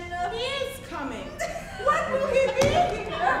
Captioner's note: Hortensio laughing